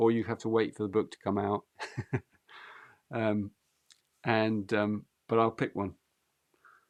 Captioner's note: laughs